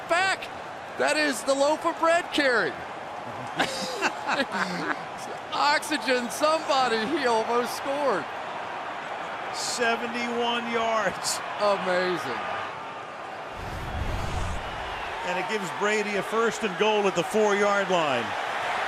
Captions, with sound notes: He's going to cut back. That is the loaf-of-bread carry. [laughter] Oxygen, somebody. He almost scored. 71 yards. Amazing. And it gives Brady a first and goal at the 4-yard line.